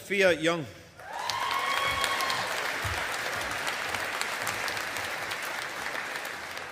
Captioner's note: audience applauding